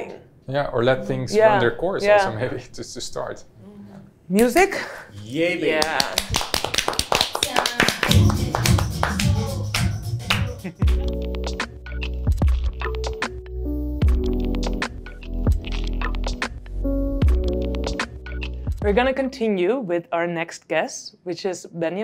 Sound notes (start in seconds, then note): 5.8 clapping; 9.0 upbeat music